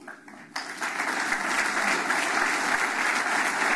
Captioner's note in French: Applaudissements